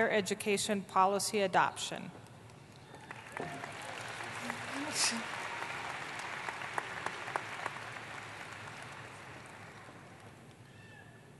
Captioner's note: applause